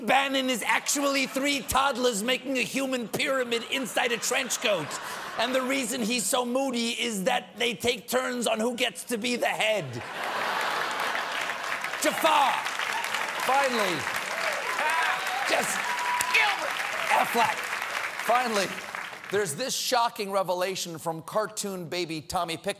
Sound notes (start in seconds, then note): 10.0 laughter; 10.0 applause